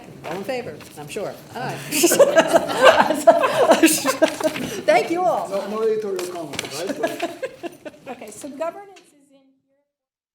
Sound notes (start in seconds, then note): 1.8 everyone laughing; 6.7 laughing